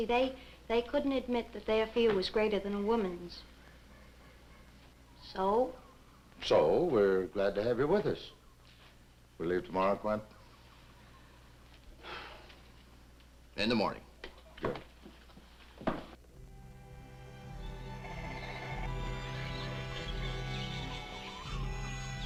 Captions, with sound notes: You see, they couldn't admit that their fear was greater than a woman's, so... - So we're glad to have you with us. We'll leave tomorrow, Quent? - (sighs) In the morning. - Good. (tense orchestral music) (animals chittering)